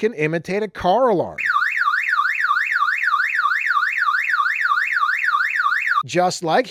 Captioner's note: car alarm sounds